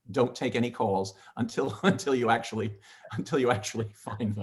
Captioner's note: chuckles